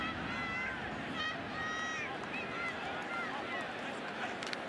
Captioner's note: screaming